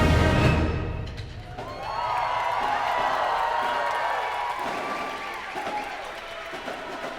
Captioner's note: crowd cheering